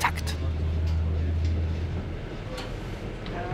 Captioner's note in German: Gespräche im Hintergrund